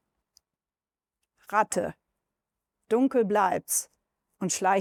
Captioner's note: speaks German